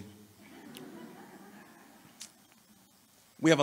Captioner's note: laughter